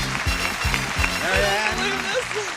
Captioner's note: mumbles; audience applauds